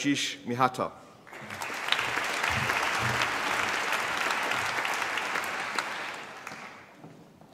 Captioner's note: applause